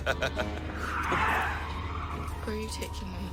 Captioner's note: laughs; tires screeching